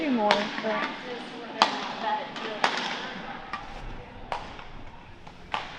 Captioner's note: clanking